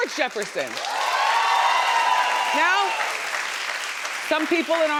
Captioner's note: audience applauding